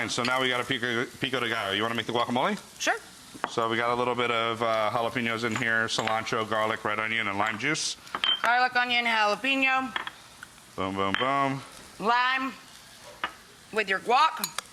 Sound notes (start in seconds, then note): none